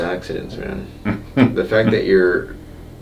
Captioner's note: chuckles